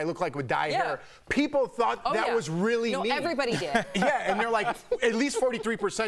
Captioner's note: laughter